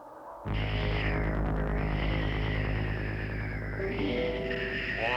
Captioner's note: Sleestack hissing